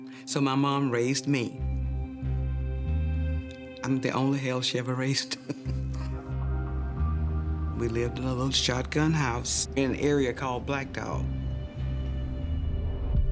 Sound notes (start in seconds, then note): 5.4 laughing